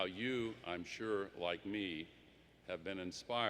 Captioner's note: none